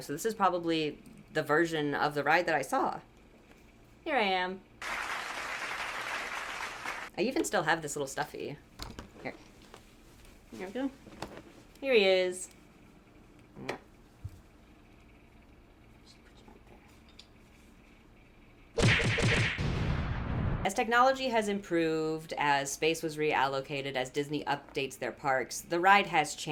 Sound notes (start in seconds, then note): 13.7 mwah; 14.7 smack smack smack smack; 18.8 kablamers